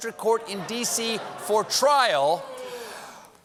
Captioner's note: takes deep breath